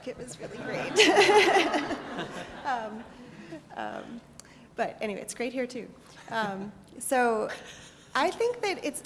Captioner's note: laugh